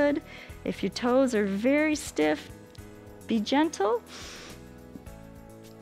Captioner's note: inhales